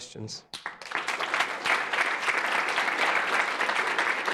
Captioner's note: audience applauds